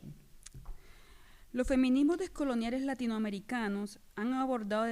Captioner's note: speaking spanish